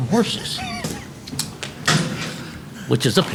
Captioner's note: laughing